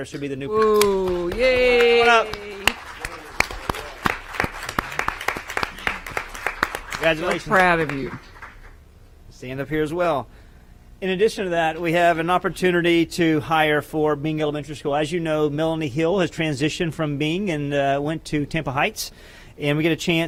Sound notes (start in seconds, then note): 6.8 applause